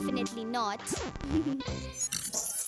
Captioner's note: chuckles